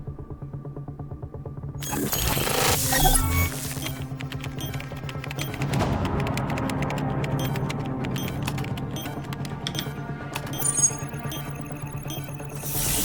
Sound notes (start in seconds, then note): 1.8 beeps; 6.0 keyboard clacking